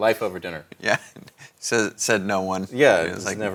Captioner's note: laughs